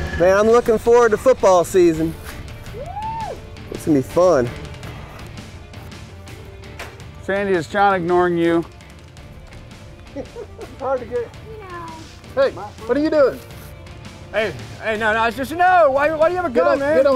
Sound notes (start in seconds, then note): 5.0 cinematic music; 8.5 laughs